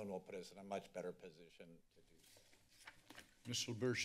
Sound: papers flipping

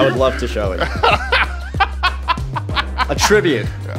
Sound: laughing

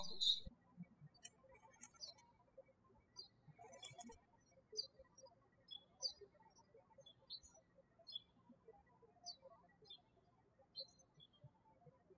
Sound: birds chirping

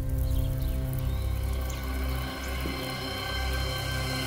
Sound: coals crackling

